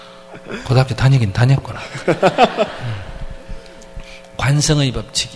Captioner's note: audience Laughter